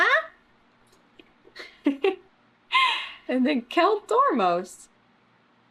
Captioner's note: laughs